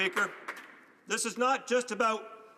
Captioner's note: applause